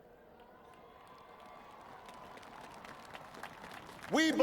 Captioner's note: applause